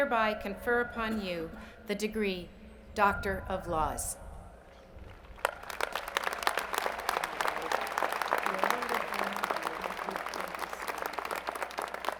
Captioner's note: applause